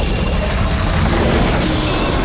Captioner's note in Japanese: 雄たけび